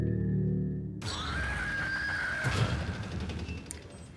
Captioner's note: door creaks open; screaming